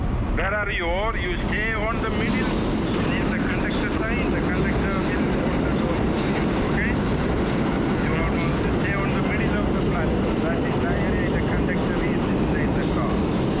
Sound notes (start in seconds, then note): 2.0 train thunders through station, obliterating speech